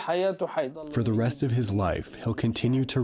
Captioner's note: through translator